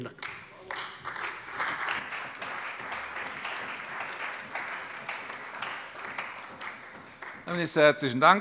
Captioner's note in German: Beifall bei der CDU und dem BÜNDNIS 90/DIE GRÜNEN